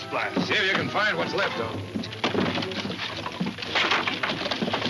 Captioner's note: wood rattling